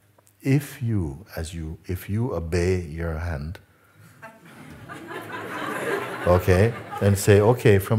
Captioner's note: Lachen